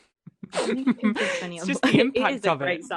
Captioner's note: laughter